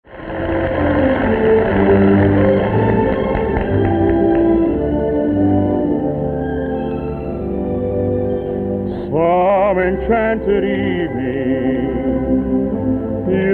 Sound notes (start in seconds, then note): 0.0 audience applauding; 1.2 gentle lilting music